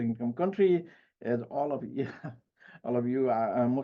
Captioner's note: chuckles